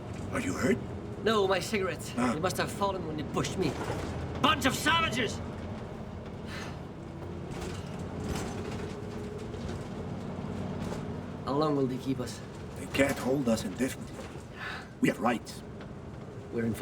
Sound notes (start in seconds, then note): 7.2 truck rattles and hums